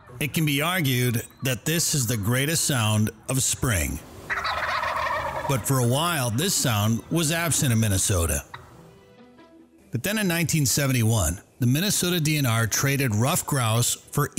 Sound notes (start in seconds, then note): 3.6 turkeys gobbling